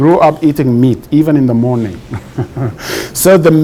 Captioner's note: laughs